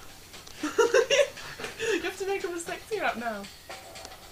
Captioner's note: laughter